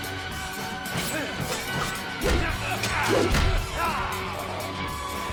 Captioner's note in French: couteau sifflant; les combattants grognent